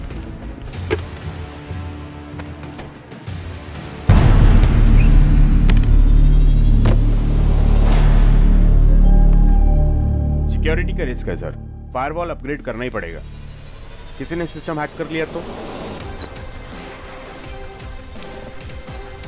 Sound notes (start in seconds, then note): 0.9 door opens; 4.9 closing tap; 6.7 door opens